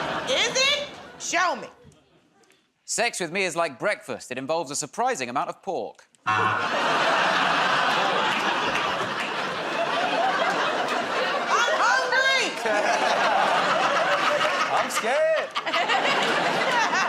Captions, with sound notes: Is it? Show me. -Sex with me is like breakfast. It involves a surprising amount of pork. [ Buzzer ] [ Laughter ] -I'm hungry! -I'm scared!